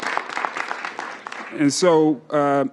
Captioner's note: applause